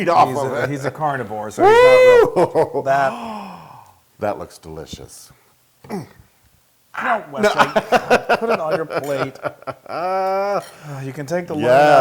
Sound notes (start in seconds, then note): 2.0 laugh; 7.4 laugh